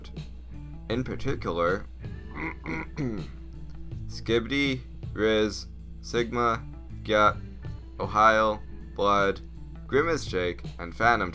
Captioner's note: ahem